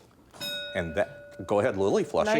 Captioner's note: bell dinging